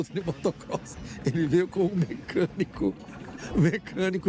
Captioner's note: laughing; laughing